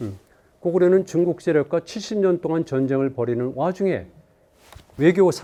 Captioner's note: speaking in Korean